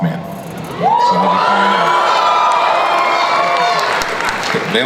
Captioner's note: audience cheers and applauds